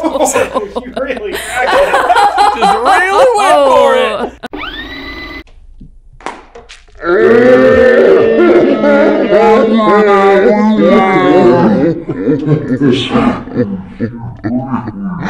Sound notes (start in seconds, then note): 0.0 all laughing; 4.4 tape rewinding; 6.1 egg thumps; 11.0 laughing in slow-mo